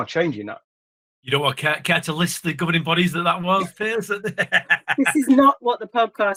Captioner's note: laughs